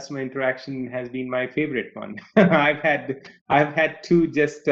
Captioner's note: laughs